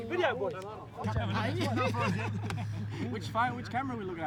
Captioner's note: laughter